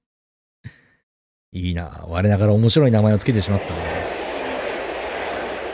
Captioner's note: applause